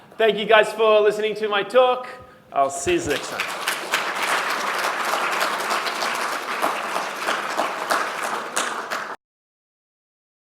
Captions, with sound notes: Thank you guys for listening to my talk. I'll see you next time. (APPLAUSE)